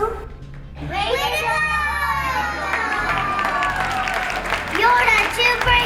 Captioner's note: applause